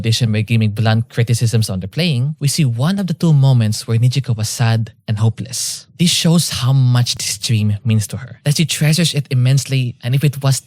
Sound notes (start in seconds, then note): none